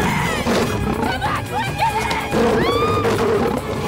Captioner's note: Growling; Amy Screams